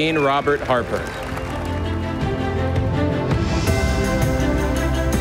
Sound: audience applauding

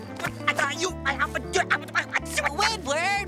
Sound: stammering

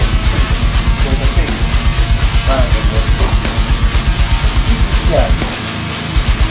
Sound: grumpy blabbering

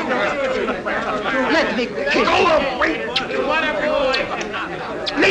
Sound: kisses

